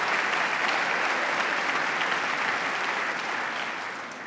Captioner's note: applause